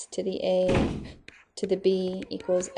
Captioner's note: door slams